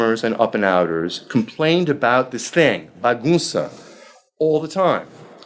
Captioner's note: speaking foreign language